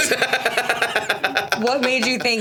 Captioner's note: Stavros laughs